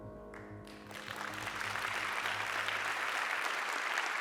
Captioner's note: audience applauding